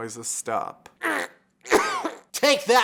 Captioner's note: aggressive hotdog gurgling